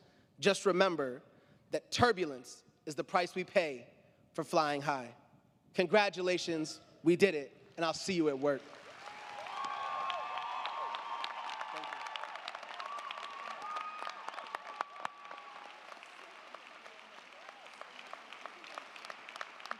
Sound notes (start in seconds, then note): 9.1 crowd cheering; 9.1 crowd clapping